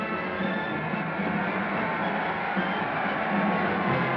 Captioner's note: crowd Cheering